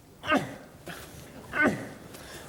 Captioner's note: grunting noises